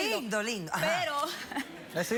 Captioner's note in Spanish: risas